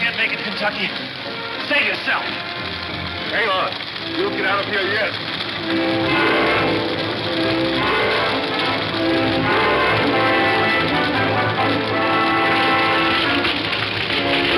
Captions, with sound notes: - Oh, I can't make it Kentucky. Save yourself. - Hang on, you'll get out of here yet. (fire crackling) (suspense music)